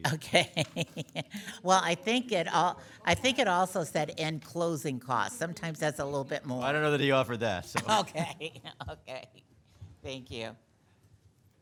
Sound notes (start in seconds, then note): 0.0 laughs; 7.7 laughs